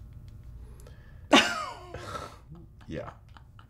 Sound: Efosa laughs

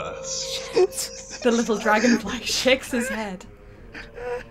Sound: hushed tense whispers

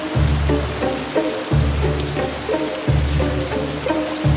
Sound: heavy rain sounds

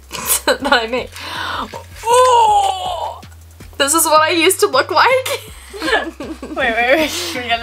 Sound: laughs

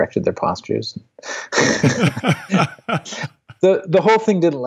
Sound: laughing

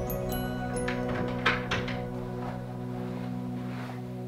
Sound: gentle music; door clicks

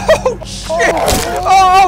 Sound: Crunch

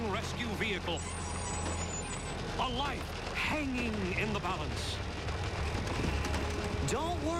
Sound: screecng

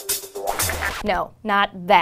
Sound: groovy music; record scratch

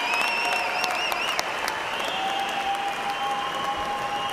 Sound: cheers and applause

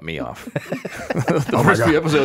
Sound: all laughs

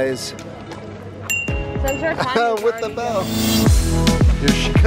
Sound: laughs

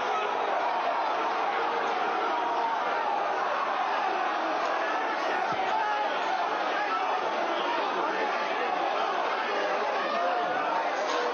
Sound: shouting

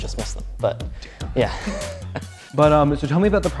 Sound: laughs

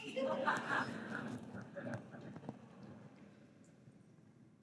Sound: audience chuckling

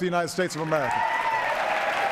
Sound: cheers, applause

